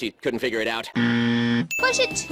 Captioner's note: buzzer